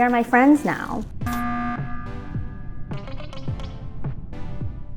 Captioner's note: alarm beeps